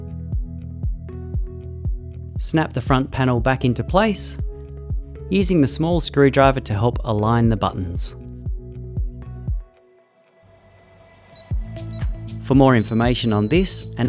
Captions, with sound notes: Snap the front panel back into place using the small screwdriver to help align the buttons. (upbeat music) (keypad beeping) For more information on this